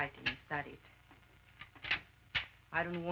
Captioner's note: gun clicks